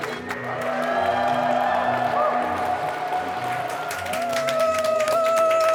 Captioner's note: guests applauding and cheering